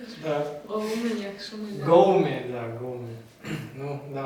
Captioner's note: speak Turkmen